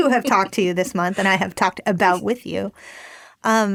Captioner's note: laughter